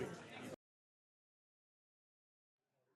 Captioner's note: chorus of ayes